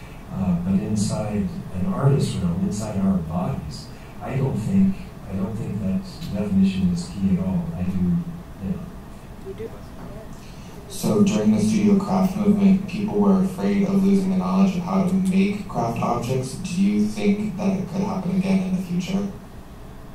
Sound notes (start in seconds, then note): none